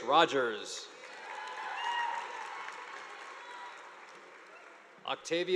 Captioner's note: audience applauding